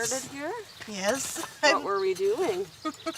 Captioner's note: laughs